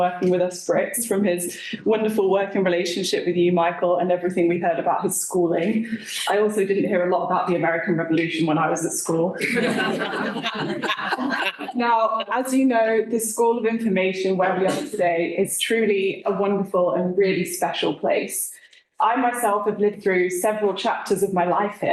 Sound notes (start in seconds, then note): 9.4 laughter